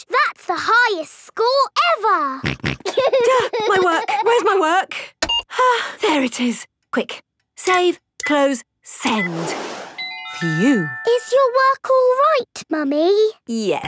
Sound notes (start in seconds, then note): 2.5 snorts; 2.8 giggling; 5.5 sighs